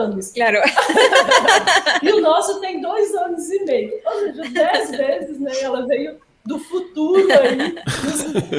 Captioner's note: laughs